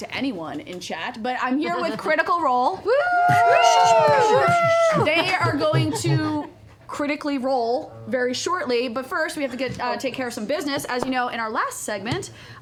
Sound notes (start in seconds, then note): 2.9 cheering